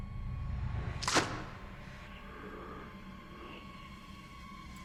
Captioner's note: wet clothes plopping